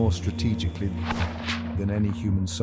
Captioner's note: missile whooshes